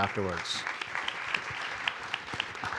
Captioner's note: applause